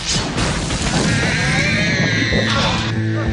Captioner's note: crash; screaming